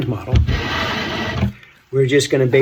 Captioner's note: scraping